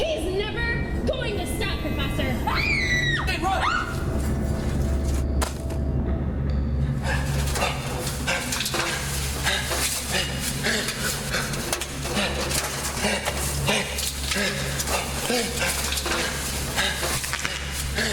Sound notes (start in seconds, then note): 2.4 gritos; 7.3 ominosa de la música; 7.3 respira fuertemente